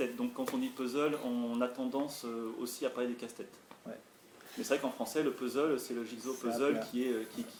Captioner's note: in french